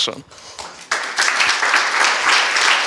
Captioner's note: applause